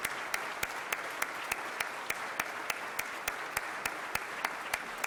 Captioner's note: everyone clapping